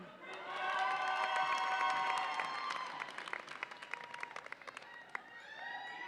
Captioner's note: audience applauds and cheers